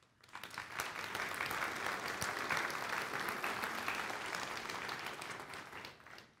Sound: applause

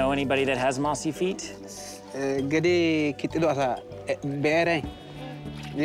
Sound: speaking foreign language

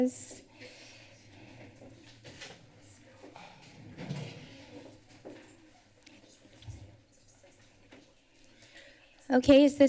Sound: pause

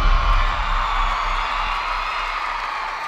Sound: cheering

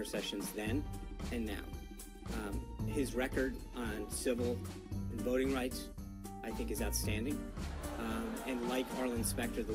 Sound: raucous laugh track

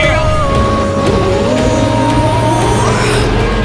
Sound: engines power up

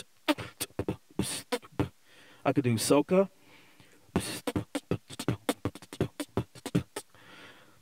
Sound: beat boxing

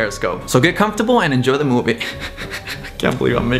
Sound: laughs

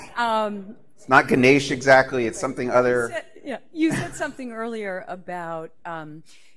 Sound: laughter

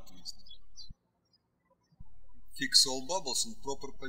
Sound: birds chirping

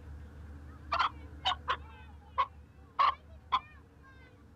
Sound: chicken clucking

